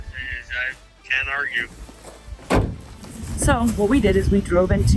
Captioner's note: tailgate thuds